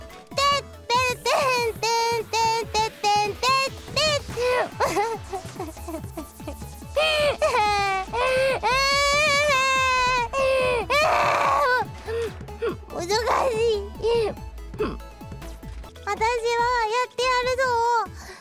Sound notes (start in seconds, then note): 0.9 AI-chan struggling noises; 5.3 sobbing out of frustration